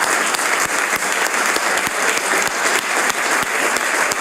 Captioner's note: applause